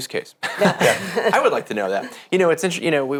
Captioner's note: all laughing